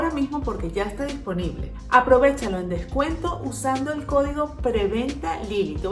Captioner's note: in Spanish